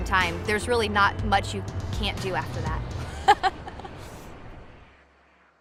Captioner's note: laughs